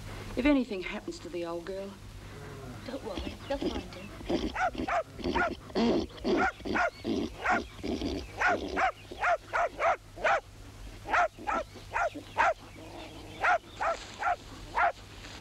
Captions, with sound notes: - If anything happens to the old girl... - Don't worry, they'll find him. (dog barking)